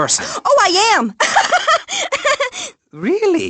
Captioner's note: laughs